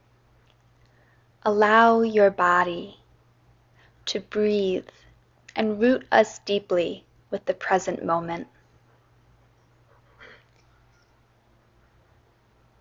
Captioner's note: inhale, exhale